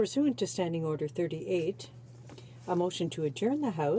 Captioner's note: speaking French